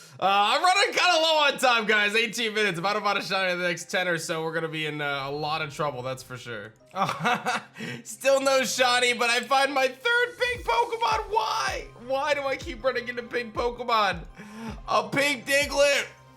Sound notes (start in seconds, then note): 6.9 chuckles